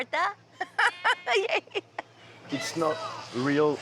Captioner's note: giggling